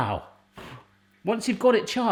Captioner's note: blows